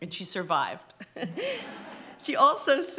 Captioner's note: laughter